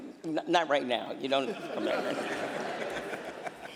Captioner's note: laughter